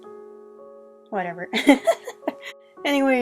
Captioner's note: laughing